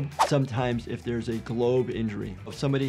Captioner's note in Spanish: none